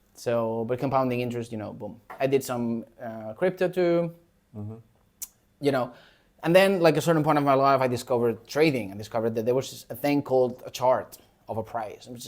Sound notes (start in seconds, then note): none